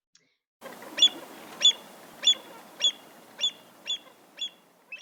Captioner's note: avocet Call